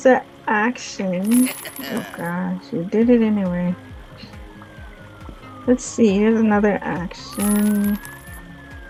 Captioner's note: creepy laugh